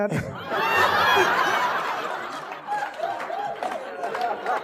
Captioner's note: audience laughing